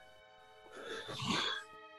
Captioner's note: sighs